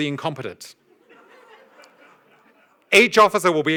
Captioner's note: audience laughs